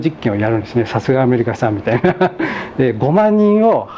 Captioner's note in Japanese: 笑い